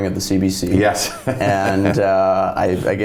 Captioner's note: laughs